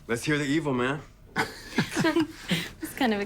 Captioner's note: laughing